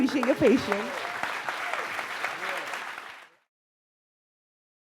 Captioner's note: audience clapping